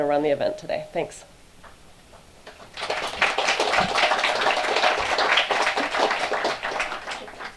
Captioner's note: applause